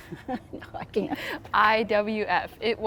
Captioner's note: laughing